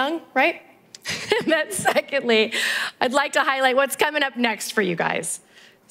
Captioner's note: laugh